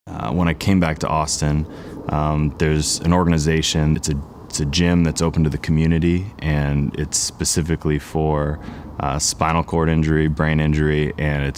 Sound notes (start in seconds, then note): none